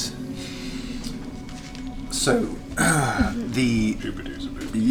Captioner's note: voice breaks